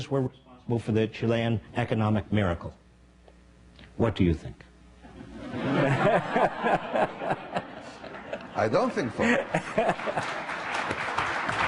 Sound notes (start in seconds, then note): 5.1 laughing; 9.2 applause